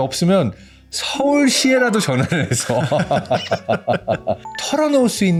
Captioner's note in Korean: 웃음